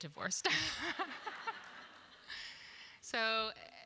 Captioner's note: laughter